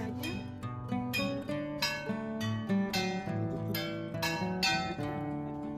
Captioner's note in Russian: звонят колокола